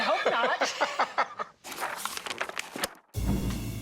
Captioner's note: laughs; pages flipping